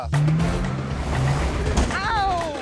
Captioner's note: engine revving